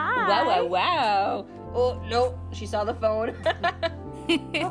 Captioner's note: laughing